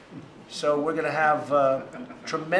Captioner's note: laughter